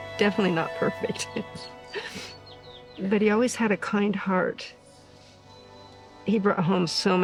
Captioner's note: chuckles